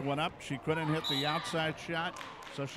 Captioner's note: referee whistling